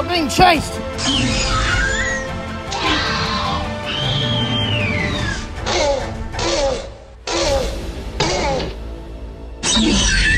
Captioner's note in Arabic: صوت فيلوسيرابتور